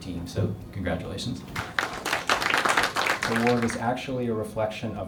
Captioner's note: applause